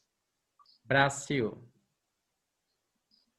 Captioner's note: in Portuguese